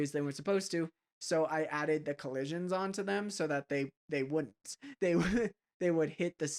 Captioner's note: laugh